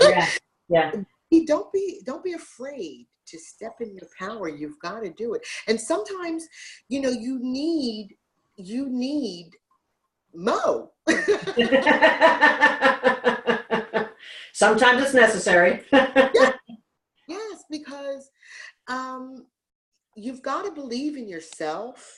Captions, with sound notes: - Yes yes. - Don't be afraid to step into your power. You've gotta do it. And sometimes you need you need Mo (laughs). - Sometimes it's necessary. - Yes yes because you've gotta believe in yourself